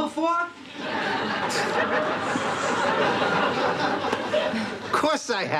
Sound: scoff; nervous chuckle

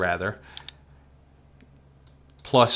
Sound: mouse clicks

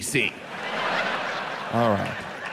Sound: audience laughs

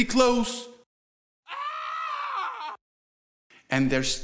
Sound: distant screaming

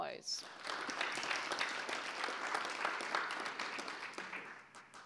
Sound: audience applause

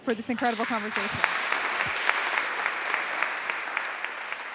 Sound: audience clapping

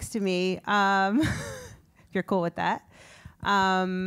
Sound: laugh

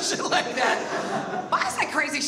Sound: audience laughs

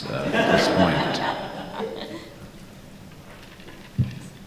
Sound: laughter

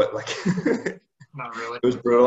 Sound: chuckles

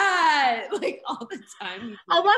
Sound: laughs

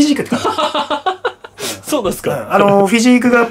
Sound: laughter

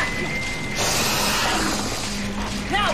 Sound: centipede roars

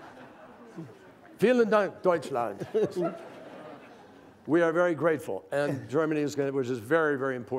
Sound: laughter; in German; laughter

